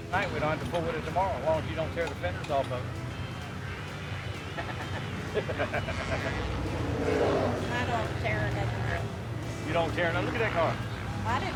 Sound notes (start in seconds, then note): 4.4 people laugh